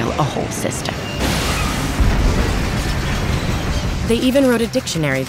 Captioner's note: trains crashing and exploding